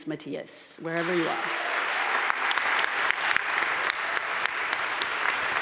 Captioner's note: crowd applauding